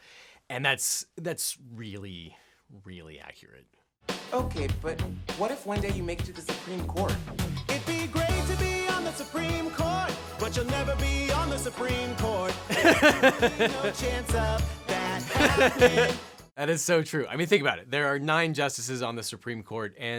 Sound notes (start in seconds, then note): 4.2 upbeat music; 12.7 laughing